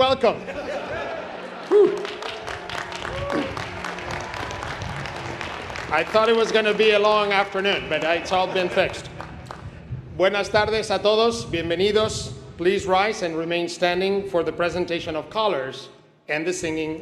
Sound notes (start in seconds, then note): 5.1 applause